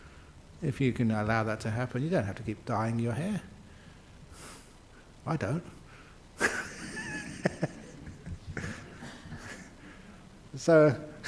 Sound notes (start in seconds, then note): 6.4 laughs